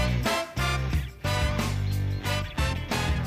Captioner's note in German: Lässige Bigbandmusik; Vogelzwitschern